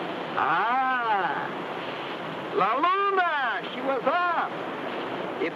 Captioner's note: speaks in foreign language